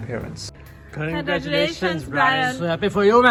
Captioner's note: in Unison